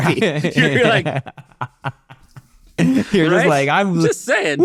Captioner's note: laughing